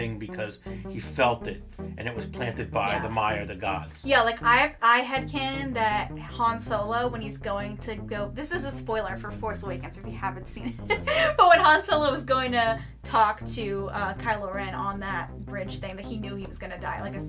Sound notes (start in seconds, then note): 10.8 laughs